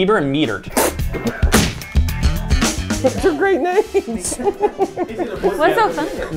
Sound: spits; laughing

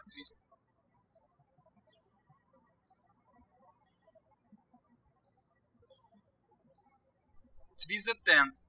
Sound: birds chirping

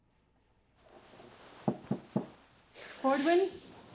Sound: knocking

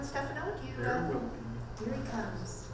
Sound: voiceover

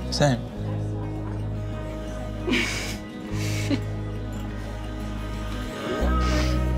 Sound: bright music; Astrid laughs

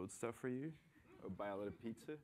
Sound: laughter

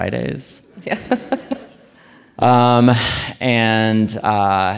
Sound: audience laughing

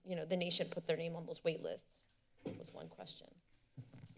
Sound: thuds

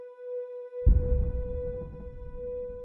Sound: faint boom

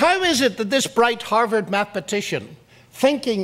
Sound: none

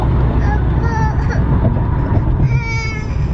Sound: cries

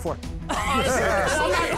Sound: laughter

